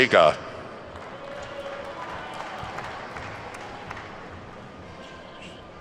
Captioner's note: attendees clapping